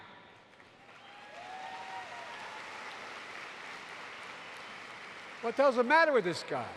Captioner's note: applause